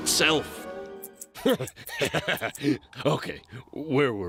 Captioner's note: laughs